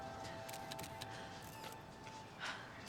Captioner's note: none